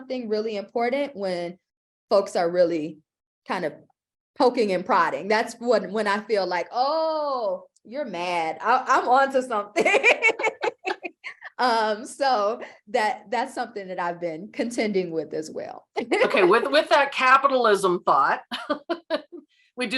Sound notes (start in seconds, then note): 9.7 laughter